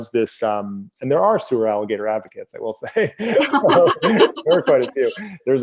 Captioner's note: both laugh